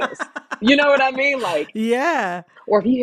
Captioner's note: laughter